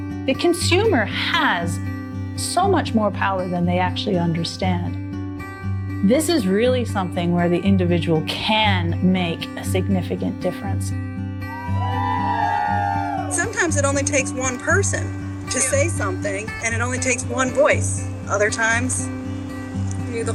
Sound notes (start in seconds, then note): 11.4 crowd cheering